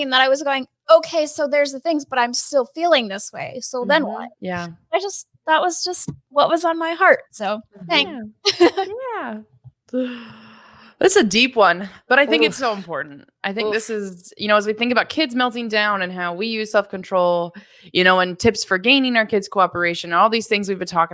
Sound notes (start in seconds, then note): 8.0 laughs